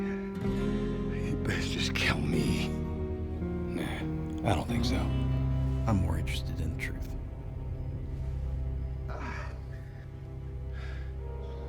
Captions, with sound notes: [SCOTTISH ACCENT] YOU BEST JUST KILL ME. NAH I DON'T THINK SO, I'M MORE INTERESTED IN THE TRUTH. AH... [BREATHING HEAVILY]